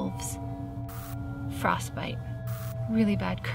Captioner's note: static crackles; static crackles